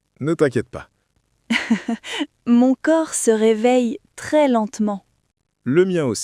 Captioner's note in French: rire